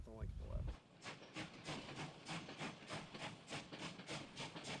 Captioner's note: train rails rumbling